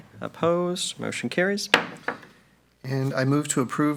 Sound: gavel taps

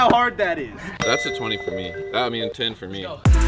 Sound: chime

